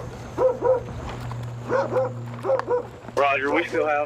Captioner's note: dog barking